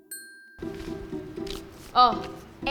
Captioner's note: paper crumpling